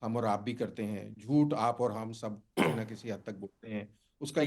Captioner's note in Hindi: गला साफ़ करने की आवाज़